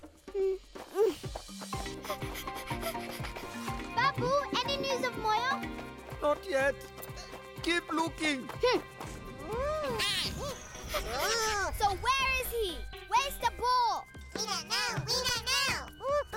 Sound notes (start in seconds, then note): 1.8 panting; 9.3 chirping